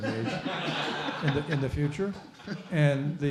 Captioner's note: laughing